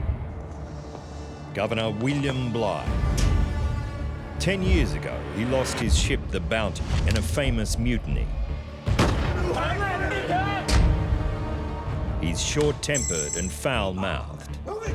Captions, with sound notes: Governor William Bligh. Ten years ago, he lost his ship the Bounty in a famous mutiny. [gun shots] [men screaming] He's short tempered and foul mouthed,